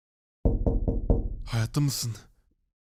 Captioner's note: knock knock